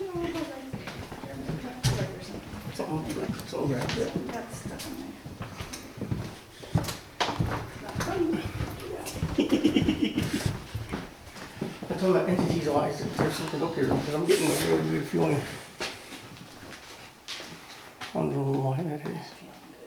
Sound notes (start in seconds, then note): 8.8 laughing